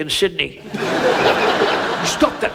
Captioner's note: audience laughs